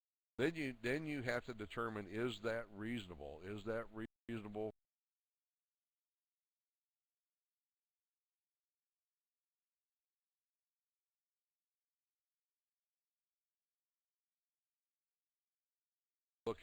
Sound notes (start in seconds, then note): 9.4 audio drops